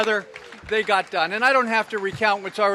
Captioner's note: applause